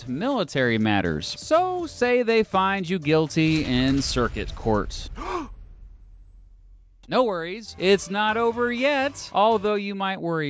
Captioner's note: gasp!